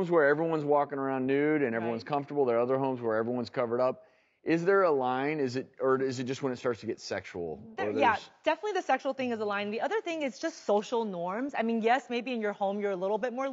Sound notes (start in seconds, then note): none